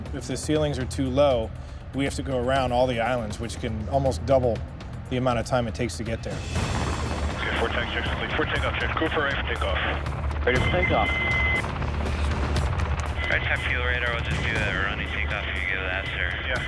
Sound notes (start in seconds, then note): 12.2 helicopter blades whirring